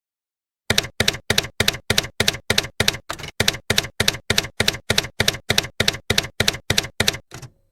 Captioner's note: typewriter keys clacking